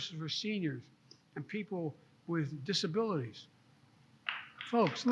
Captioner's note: applause